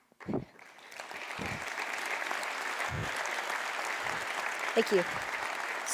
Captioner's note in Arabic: تصفيق